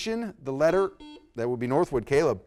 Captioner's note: buzzer beeps